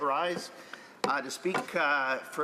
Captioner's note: speaking French